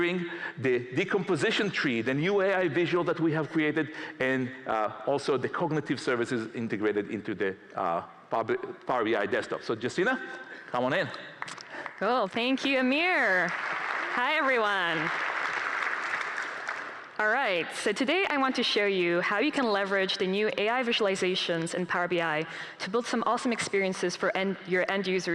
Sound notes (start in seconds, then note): 17.9 applause